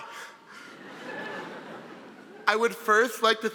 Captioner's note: audience laughing